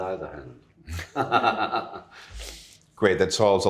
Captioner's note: laughter